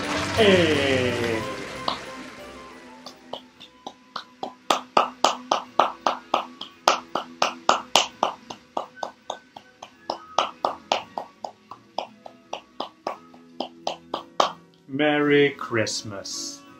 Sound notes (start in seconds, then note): 0.0 applause